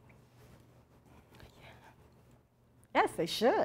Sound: whispers

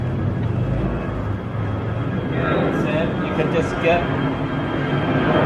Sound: airplane taking off

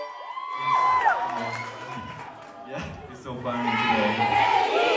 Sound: ปรบมือ

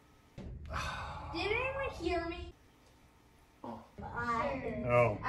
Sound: sighs

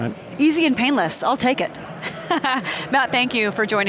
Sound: chuckles

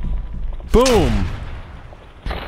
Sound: blam!

